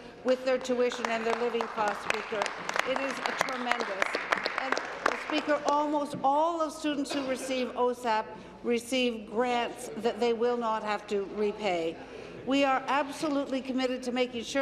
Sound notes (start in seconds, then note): 6.4 applause